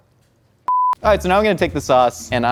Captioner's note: beep